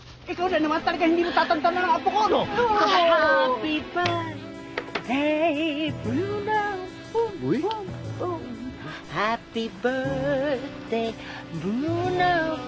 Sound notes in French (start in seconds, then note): 7.1 hooting